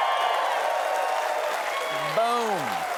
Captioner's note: cheers and applause